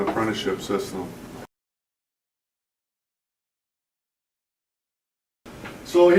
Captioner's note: silence